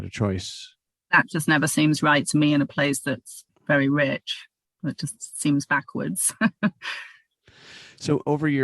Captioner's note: laughter